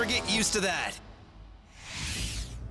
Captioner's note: none